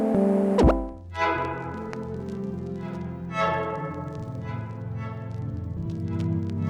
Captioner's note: static sound; menu sound effects